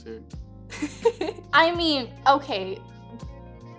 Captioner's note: laughing